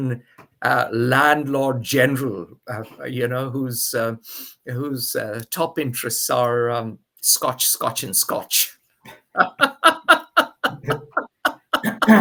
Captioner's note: laughs